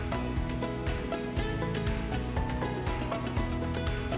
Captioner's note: none